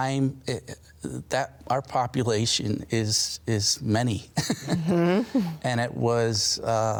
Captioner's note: laughs